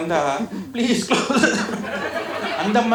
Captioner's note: coughs